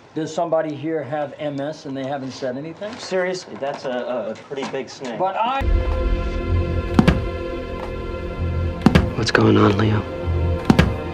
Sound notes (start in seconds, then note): 7.0 ball thudding against floor